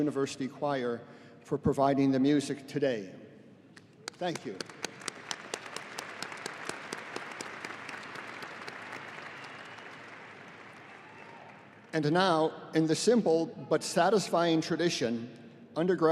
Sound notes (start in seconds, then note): 4.0 audience applauding